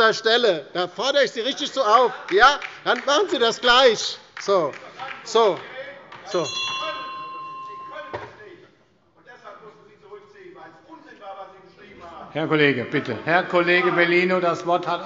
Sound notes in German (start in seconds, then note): 2.2 Beifall bei der LINKEN; 4.5 Unruhe - Glockenzeichen des Präsidenten